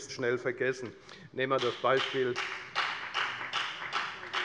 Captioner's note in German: Beifall bei der FDP